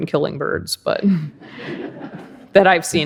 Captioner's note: audience laughs